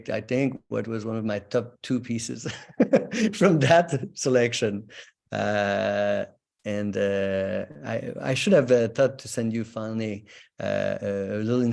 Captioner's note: laughs